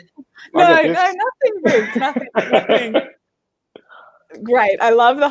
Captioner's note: laughing